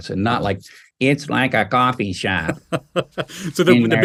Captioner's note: using robotic voice